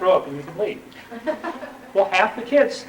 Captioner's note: laughter